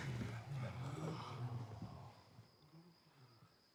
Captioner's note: men gasping